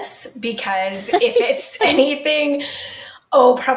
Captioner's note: laughing